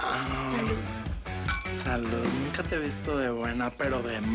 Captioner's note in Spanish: Chocan las tazas